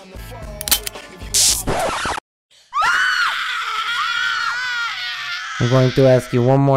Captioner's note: women scream; gun clicks